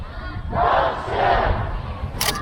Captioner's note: crowd